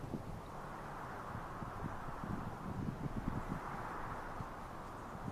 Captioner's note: wind blowing